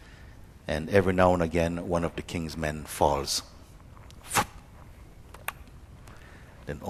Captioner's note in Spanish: sonido de rebanar